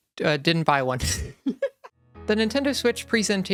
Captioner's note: dies of laughter